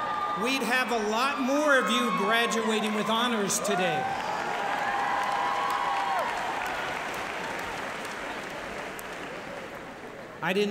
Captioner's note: applause